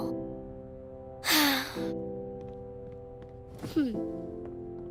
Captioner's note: sighing